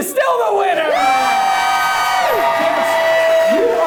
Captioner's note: audience cheers